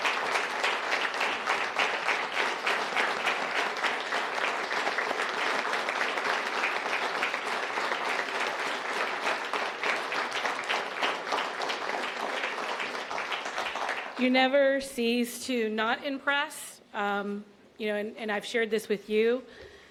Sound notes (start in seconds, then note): 3.0 applause